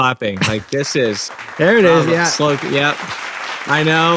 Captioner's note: everybody applauds